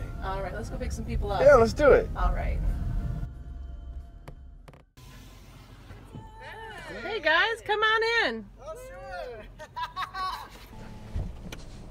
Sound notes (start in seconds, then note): 9.4 laughter